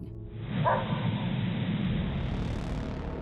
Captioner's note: dog barking